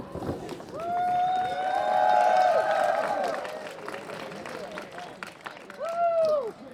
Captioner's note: cheers and applause